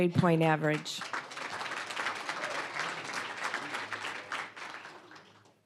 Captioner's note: applause